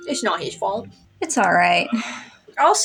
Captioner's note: sigh